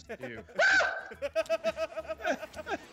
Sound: laugh

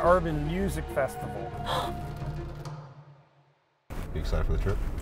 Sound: gasping

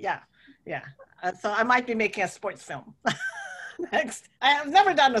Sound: laughs

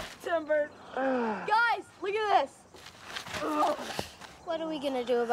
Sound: groaning Continues

